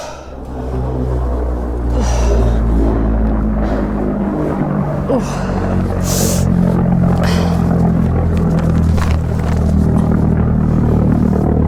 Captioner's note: planes flying overhead